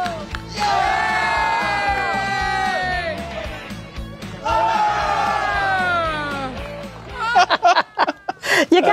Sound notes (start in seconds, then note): 2.8 cheering; 7.2 laughter